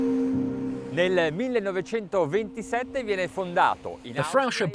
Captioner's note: speaking in a foreign language